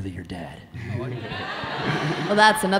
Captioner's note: audience laughing